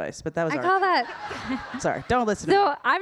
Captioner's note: audience laughing